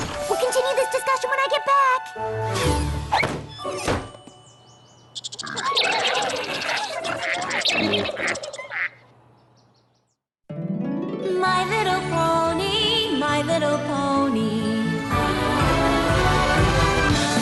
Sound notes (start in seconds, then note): 3.4 door clicks closed; 5.0 chittering